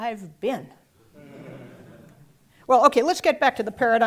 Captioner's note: laugh